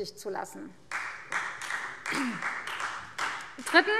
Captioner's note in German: Beifall Freie Demokraten